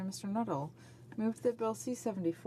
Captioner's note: speaking French